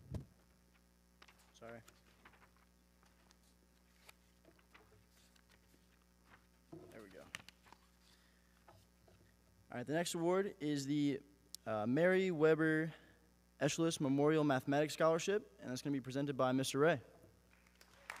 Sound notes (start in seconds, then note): 1.2 paper rustling